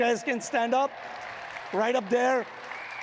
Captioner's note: audience cheering and clapping